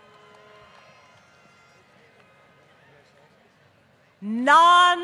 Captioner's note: applause